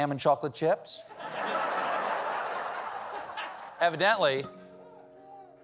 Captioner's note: laughter